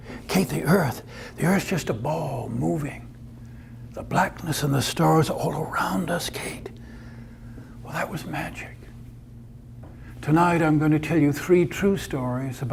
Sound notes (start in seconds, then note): none